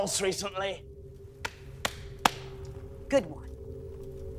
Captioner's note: Marie clapping